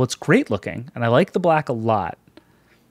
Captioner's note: none